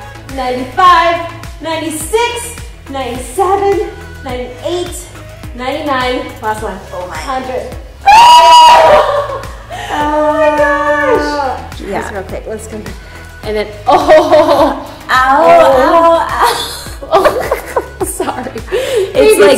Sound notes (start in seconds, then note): 8.2 both expressing pain; 17.0 both laughing